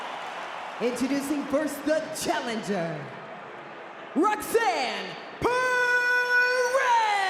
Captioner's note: applause